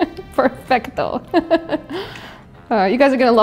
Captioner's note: laughs